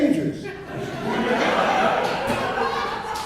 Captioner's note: laughter